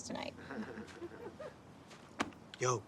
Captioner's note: laughter